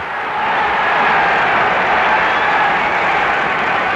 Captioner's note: crowd roaring